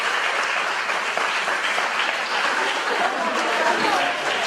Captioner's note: audience applauds